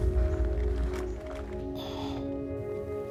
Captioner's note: sighing